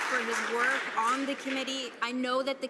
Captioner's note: some Applause